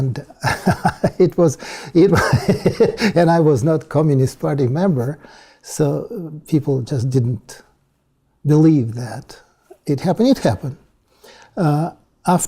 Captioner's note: laugh